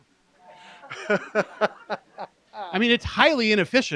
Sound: laughter

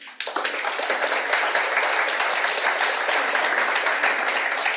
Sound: audience applauds

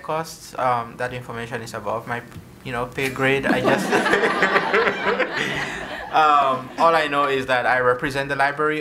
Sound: laughter

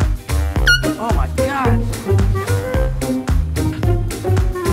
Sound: horn squeaks

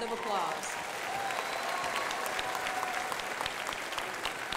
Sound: crowd applauding

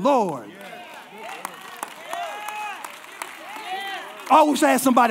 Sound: congregation applauding

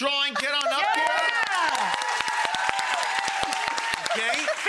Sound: audience cheering

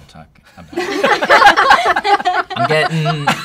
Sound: laughter

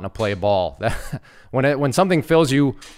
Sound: instructor laughs

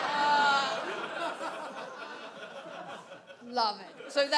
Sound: audience laughs

